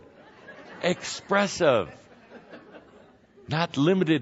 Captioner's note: laughter